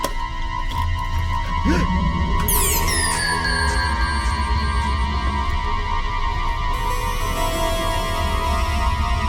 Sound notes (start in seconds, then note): 0.3 clicking; 1.5 gasping; 2.4 door creaking; 6.2 suspenseful music